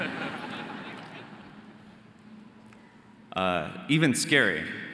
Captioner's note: audience laughing